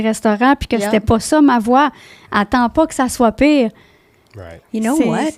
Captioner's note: in french